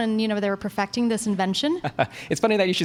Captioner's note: laughs